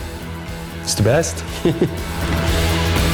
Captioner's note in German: lacht